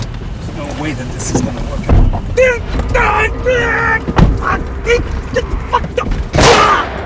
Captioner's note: vocalizes and winces; gun blasting